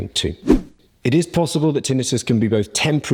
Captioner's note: swoosh